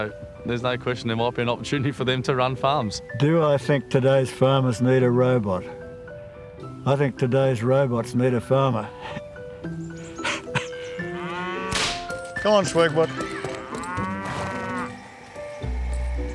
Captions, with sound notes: so there's no question there might be an opportunity for them to run farms. Do I think today's farmers need a robot? I think today's robots need a farmer. (LAUGHS) (WHIP CRACKS) Come on, SwagBot.